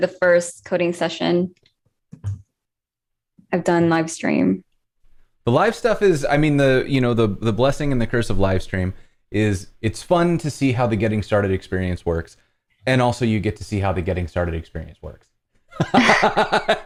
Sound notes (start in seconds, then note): 15.7 laughter